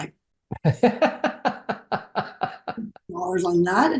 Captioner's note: laughs